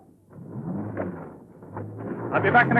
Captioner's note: car engine revs